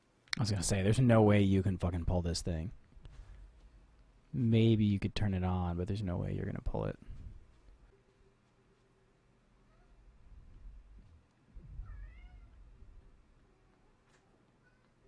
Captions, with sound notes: I was gonna say, there's no way you can fucking pull this thing Maybe you could turn it on but there's no way you're gonna pull it (mew) [(boom)] (meow) (meow)